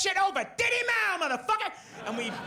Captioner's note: audience laughs